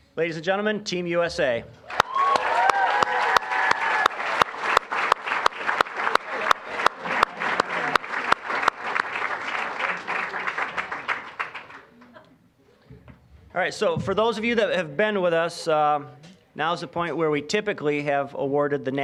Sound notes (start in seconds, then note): 1.8 applause, cheering; 6.4 applause